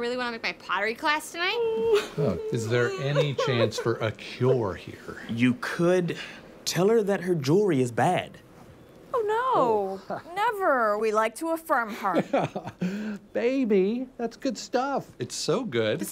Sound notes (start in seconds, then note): 1.6 sobbing